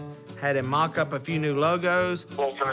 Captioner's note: on phone